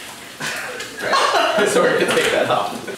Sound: laughter

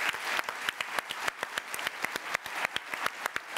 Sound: applause

